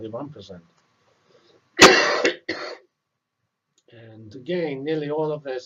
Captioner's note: cough